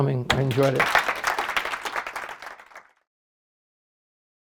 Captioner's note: applause